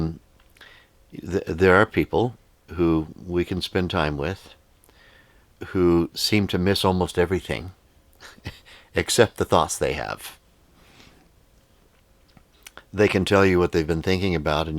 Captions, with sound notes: There are people who we can spend time with who seem to miss almost everything (chuckles) except the thoughts they have. They can tell you what they've been thinking about